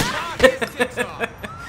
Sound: laughs

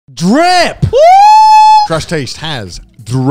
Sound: screaming

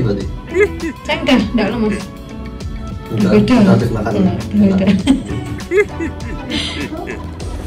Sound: chuckles

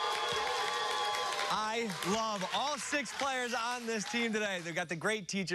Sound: cheers and applause

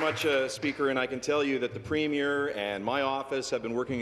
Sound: applause

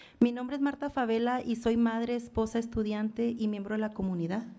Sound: foreign language

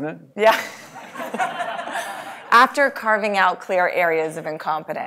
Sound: laugh

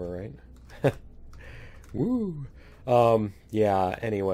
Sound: laughs

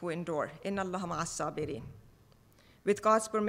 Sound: speaking foreign language

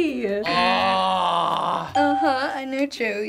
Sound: buzzer

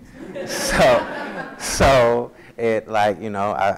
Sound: audience laughs

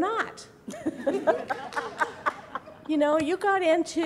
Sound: people laughing

